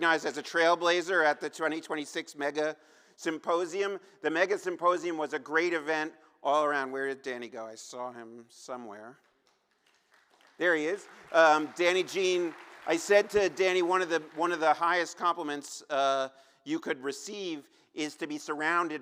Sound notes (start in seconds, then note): 13.0 applause